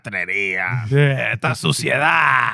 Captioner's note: speaking In Foreign Language